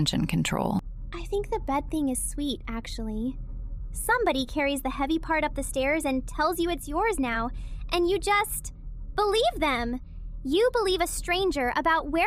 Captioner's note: quietly; whispers